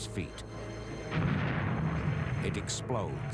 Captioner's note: explosion of bomb